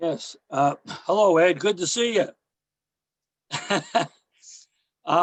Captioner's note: chuckles